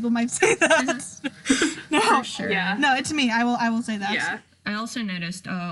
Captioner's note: laughs